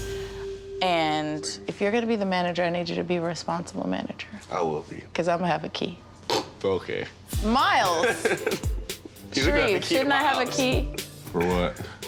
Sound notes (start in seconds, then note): 7.9 laughs